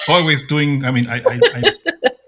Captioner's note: laughing